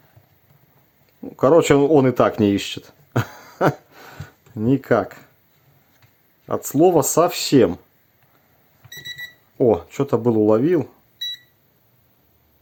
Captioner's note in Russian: смех